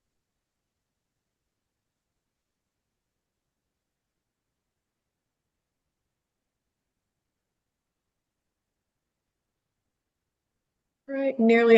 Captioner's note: pause